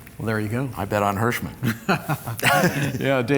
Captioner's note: laughter